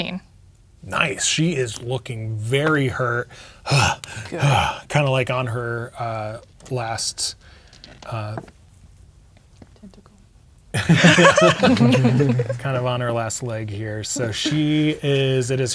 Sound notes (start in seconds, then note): 3.3 exaggerated breathing; 10.7 players laughing